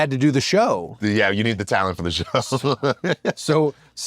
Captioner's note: laugh